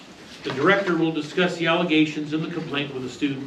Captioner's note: reading from paper